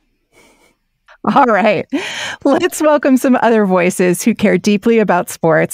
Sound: chuckles

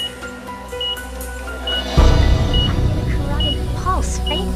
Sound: monitor beeping normally

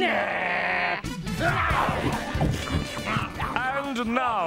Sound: both growling hungrily

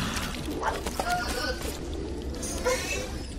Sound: whimpers

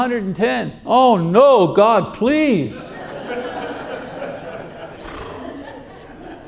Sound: audience laughing

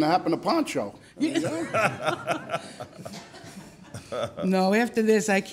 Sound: laughing

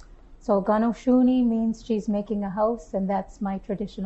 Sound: non-english speech

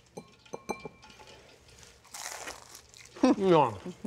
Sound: chicken crunching

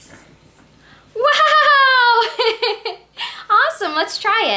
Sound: laughs

